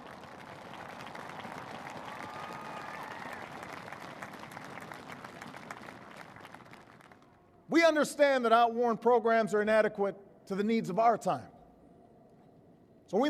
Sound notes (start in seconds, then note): 0.0 cheering; 3.1 applause